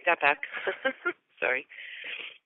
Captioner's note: chuckle